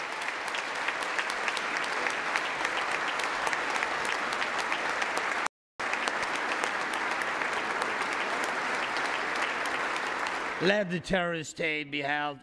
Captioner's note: applause